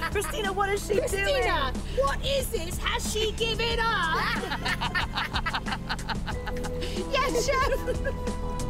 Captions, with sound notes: Christina, what is she doing? Christina, what is this? Has she given up? (LAUGHING) Yes chef.